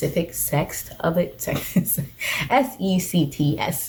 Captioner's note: chuckles